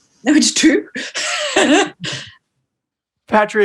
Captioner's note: laughs